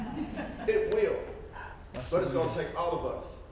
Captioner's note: laughter